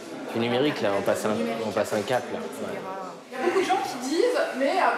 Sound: speaking in a foreign language

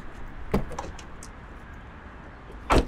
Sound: door opens

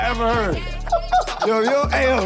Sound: group laughs

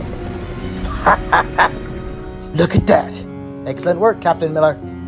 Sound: Captain Miller laughs

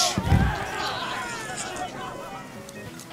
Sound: people yelling

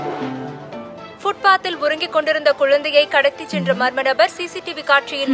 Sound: TV news

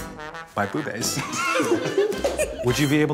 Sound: group laughs

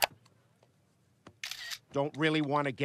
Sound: camera clicks

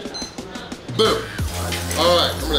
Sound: timer beeping

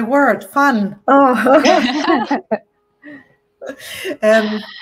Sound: all chuckling

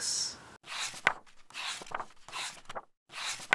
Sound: pages turning

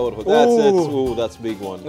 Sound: both exclaim

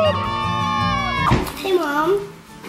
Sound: children cheering

